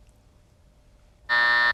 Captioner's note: buzzer